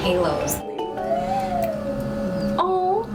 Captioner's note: machine revving